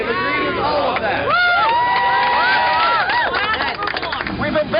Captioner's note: cheering and applause